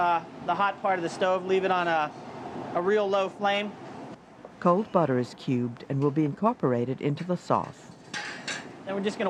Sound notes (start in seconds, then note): 4.6 voiceover